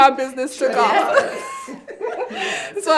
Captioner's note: everyone laughing